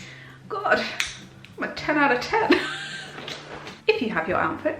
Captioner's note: laughs